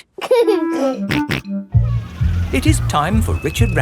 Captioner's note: giggling and snorting